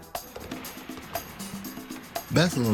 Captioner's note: basketball thudding